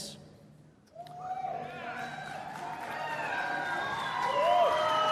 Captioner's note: cheering and Applause